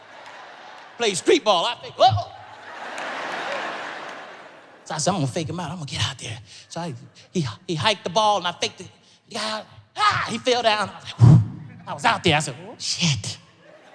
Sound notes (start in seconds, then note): 0.0 audience laughs